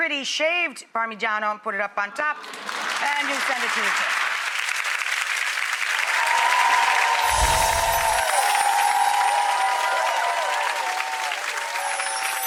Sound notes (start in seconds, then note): 2.3 audience applauds